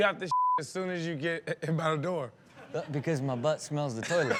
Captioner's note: beep; audience laughs